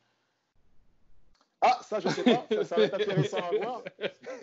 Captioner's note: laughs